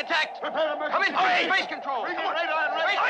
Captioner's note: all shouting